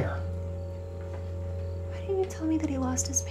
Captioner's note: crickets chirping; tense music